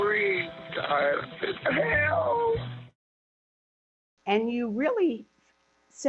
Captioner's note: crying